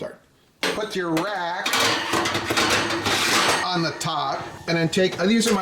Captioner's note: rack clinging